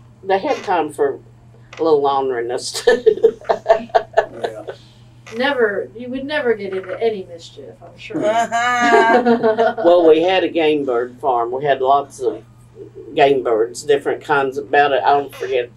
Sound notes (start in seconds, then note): 2.8 laughs; 8.2 laughter